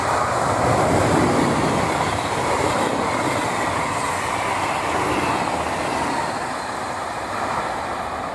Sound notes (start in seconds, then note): 0.0 noise of the regional train transit